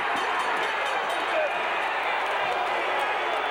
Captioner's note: ring bell clanging; audience cheering